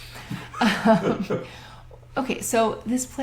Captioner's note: laughter